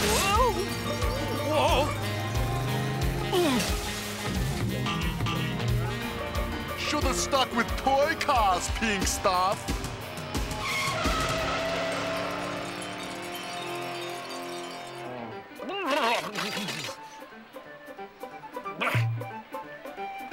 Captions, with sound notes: Oh! Whoa! -Oof! -(CRASH) Shoulda stuck with toy cars, pink stuff. (TIRES SCREECHING) (GROANS) (GRUNTS ANGRILY)